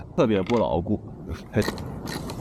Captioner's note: sound of riding